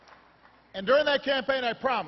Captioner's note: applause